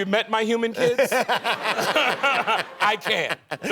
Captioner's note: laughing